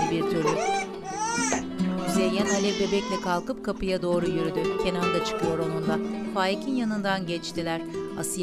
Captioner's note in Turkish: Müzik - Duygusal; Bebek ağlama sesi